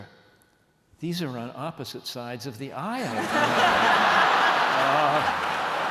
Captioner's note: laughter